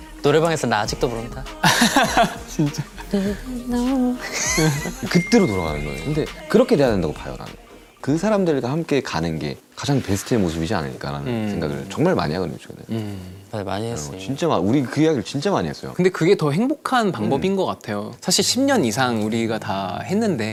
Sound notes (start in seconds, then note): 1.6 haha